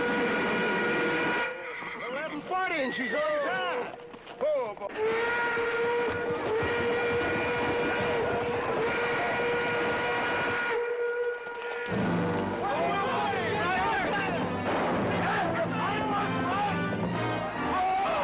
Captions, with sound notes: (TRAIN HORN BLOWING) The 11:40, and she's on time. (TRAIN HORN BLOWING) (PEOPLE YELLING)